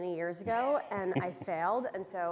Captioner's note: chuckles